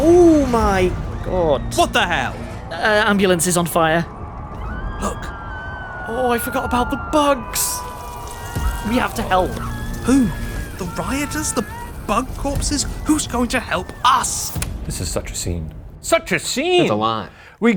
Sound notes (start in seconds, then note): 6.1 people screaming